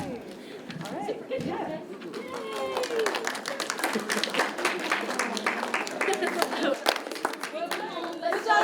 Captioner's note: chatter and applause